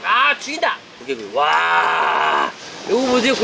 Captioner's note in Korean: 감탄